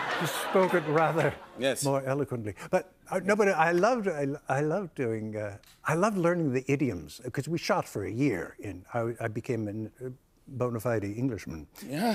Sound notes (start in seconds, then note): 0.0 laughter; 2.6 normal voice